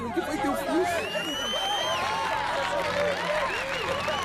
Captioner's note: whistling and cheering